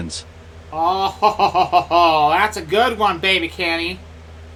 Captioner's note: forced laugh